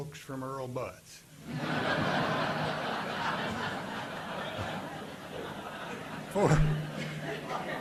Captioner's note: audience laughing